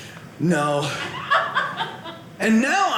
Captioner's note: audience laughing